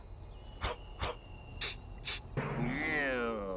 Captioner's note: sniffing